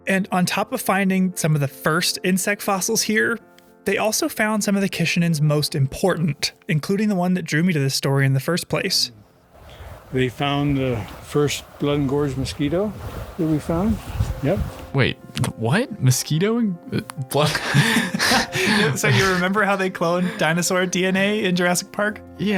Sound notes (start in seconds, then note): 16.9 laughing; 16.9 stammering